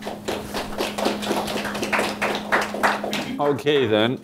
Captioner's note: audience applauding